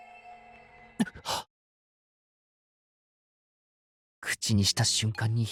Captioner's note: gasping